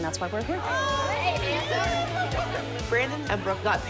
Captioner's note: chatter